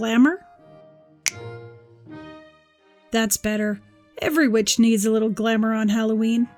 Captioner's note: snap!